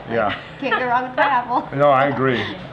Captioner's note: laughter